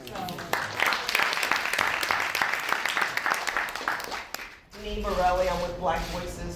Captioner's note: applause